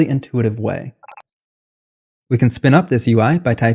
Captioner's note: beep